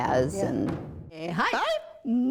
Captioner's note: chanting; drumming